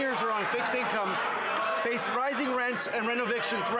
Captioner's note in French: voix de l'interprète